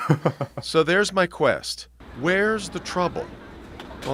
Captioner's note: laughter